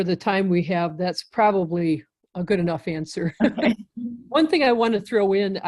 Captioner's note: chuckling